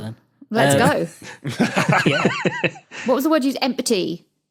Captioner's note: guys giggling